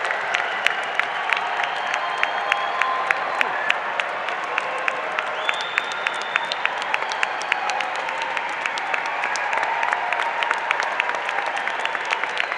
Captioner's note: cheers and Applause